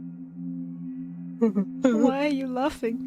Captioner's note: continues giggling; giggles